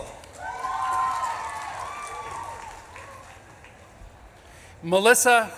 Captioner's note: audience claps and cheers